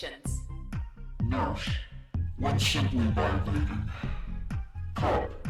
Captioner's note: distorted voice